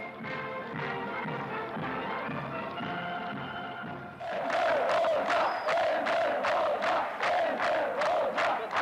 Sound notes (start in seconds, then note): 4.2 crowd chanting "Hoxha"